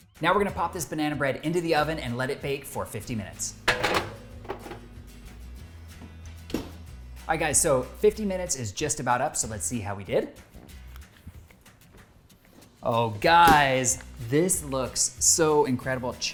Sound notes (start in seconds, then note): 3.6 tray clunking